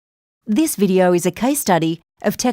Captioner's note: voiceover